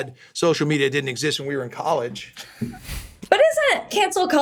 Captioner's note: chuckles